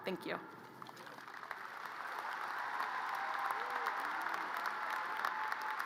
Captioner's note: audience cheers and applause